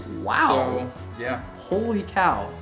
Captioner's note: male Voice